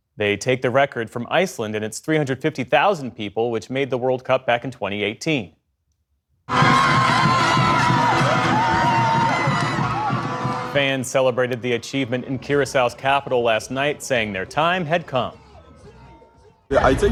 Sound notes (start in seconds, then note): 10.7 cheering